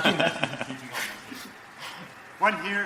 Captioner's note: laughs